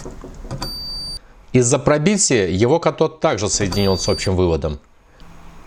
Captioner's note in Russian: Звучит сигнал мультиметра